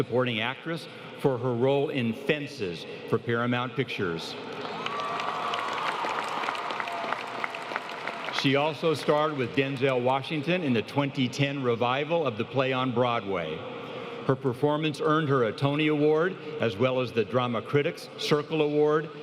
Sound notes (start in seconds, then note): 8.4 applause